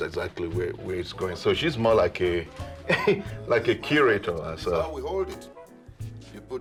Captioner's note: chuckles